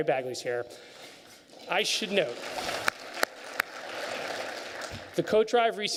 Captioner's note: applause